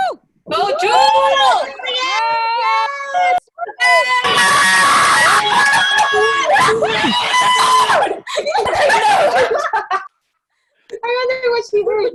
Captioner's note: cheering